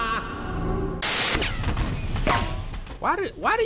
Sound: laughs; static; bullets whizz past

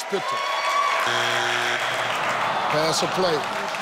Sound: audience cheers; buzzer buzzes

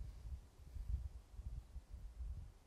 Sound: none

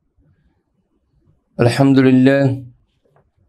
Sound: arabic

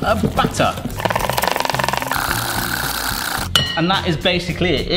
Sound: bowl clinking

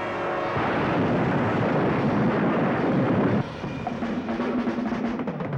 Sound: explosion

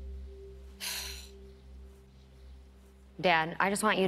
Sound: exhales

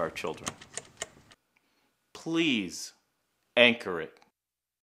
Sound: metal clicking sound

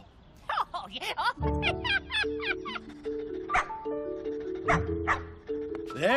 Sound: laughing

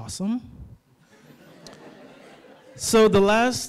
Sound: laughter

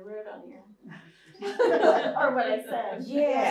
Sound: laughter

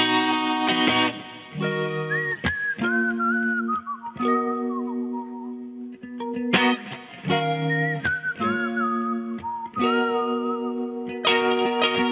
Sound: whistling

